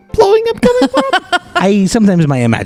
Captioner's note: laughs